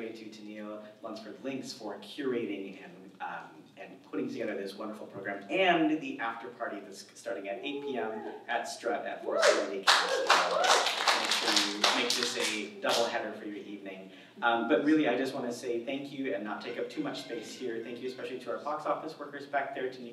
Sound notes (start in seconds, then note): 9.3 audience cheers